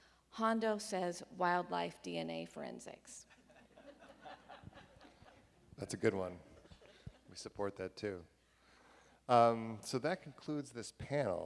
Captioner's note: laughing